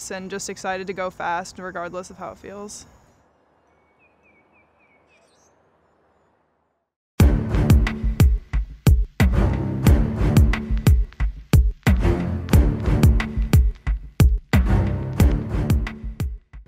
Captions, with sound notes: and just excited to go fast, regardless of how it feels. (birds chirping) (heavy bass music)